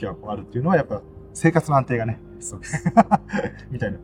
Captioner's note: laughs